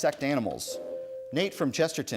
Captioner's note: ding